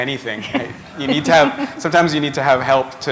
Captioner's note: laughter